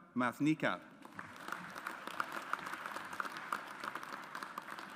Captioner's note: audience applauds